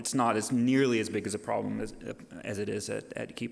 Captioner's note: none